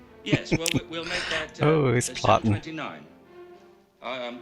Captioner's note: laughing